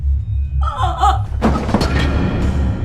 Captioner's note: mother moans; chair clatters